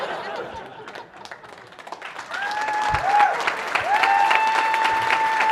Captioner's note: audience applauding